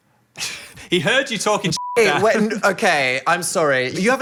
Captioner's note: beeping